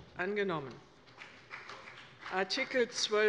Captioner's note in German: Beifall des Abg